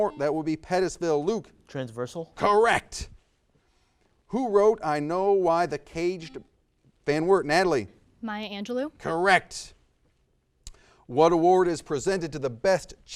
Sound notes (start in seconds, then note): 0.0 buzzer buzzes; 6.2 buzzer buzzes